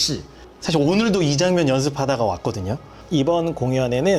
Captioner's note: speaking in Korean